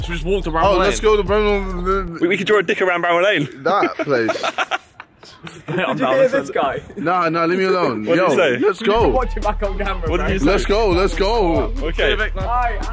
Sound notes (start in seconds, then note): 0.6 all mumbling